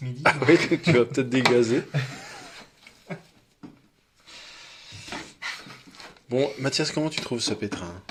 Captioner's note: laughs